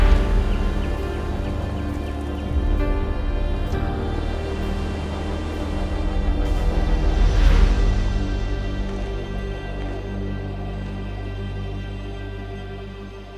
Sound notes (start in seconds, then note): 0.1 birds chirping; 7.6 surreal music